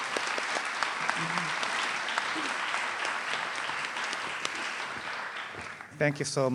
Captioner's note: applause